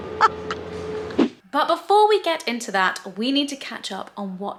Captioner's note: laughs; transition swishes